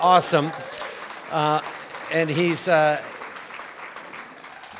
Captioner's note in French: Applaudissements